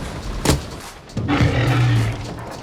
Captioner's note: T-Rex growls